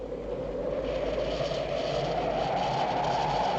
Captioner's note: wind howling